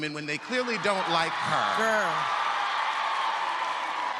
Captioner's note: audience cheers